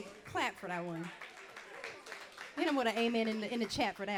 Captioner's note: audience clapping